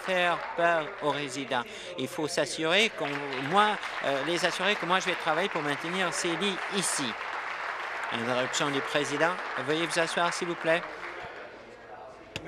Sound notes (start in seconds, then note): 7.3 applause